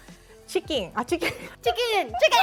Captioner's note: laughs